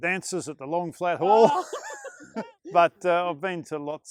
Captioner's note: laughter